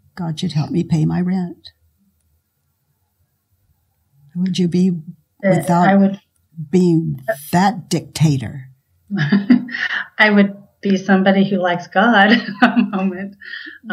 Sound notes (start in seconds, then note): 9.1 laughs